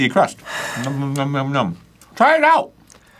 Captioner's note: sighs